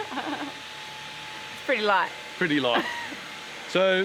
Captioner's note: laughing